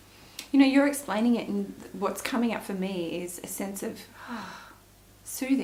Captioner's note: sighs